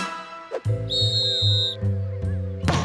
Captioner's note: whistle blows